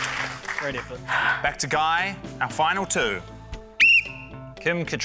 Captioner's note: blows whistle